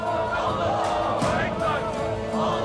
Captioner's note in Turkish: Hep bir ağızdan